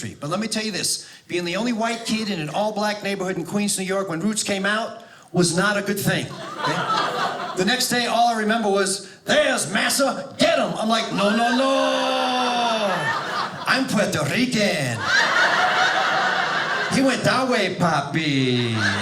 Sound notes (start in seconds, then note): 14.9 audience laughing